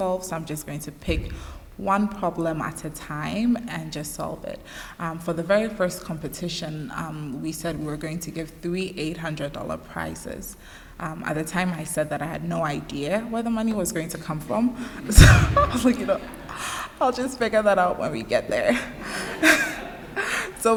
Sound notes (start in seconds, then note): 15.2 chuckles; 15.4 laughter; 18.6 laughter